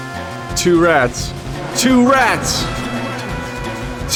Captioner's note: echoing